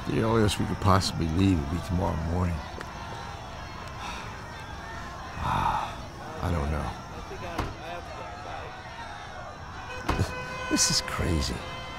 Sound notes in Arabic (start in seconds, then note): 5.4 تنهد